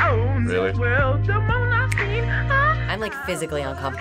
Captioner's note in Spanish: Chasqueos